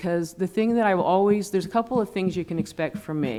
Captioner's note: laughing